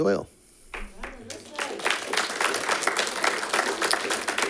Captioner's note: all clapping